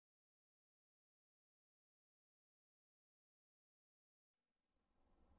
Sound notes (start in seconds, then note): 0.0 silence